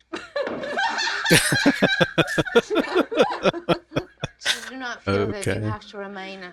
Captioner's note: laughing